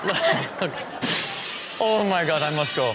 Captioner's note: glass shuttering